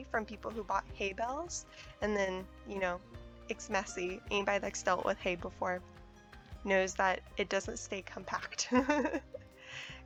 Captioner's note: laughs